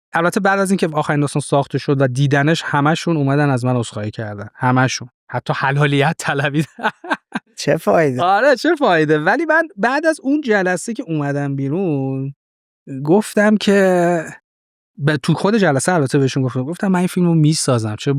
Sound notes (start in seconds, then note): 6.3 laughs